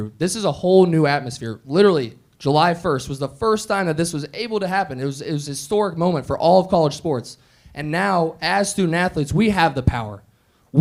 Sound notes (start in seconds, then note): none